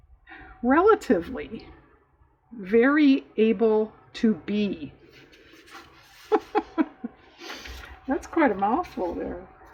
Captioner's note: laughs